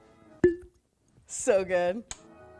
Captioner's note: cork popping